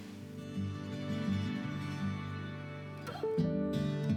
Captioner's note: laughing; gentle music